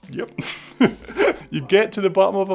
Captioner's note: laughs